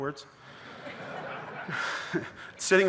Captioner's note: audience laughing